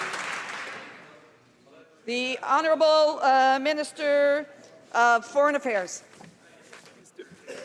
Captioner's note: some Applause